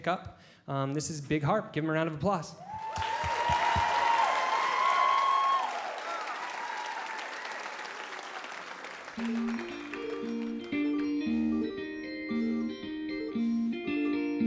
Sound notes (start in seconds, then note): 2.7 applause